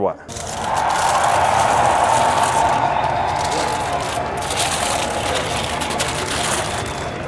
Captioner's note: subtle ambient crowd applause and cheering